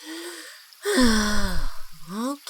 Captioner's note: sighs